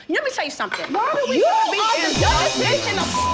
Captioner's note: beep